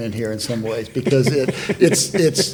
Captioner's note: panelists laughing